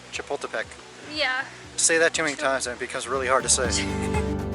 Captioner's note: laughs